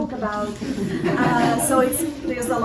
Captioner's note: laughter